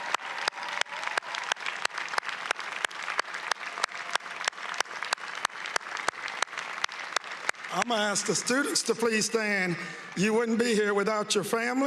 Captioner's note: applause